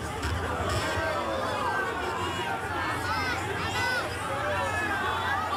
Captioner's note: crowd growing in excitement